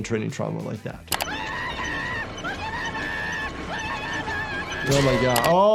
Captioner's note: Cuddles screaming